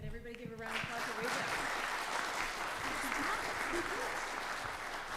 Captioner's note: audience clapping